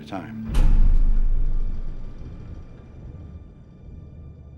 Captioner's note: door thudding